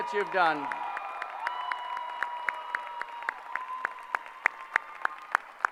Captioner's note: applause